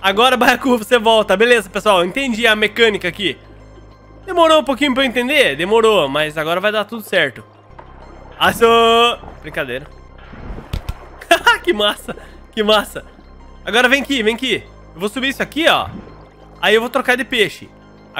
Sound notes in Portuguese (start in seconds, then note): 9.7 risos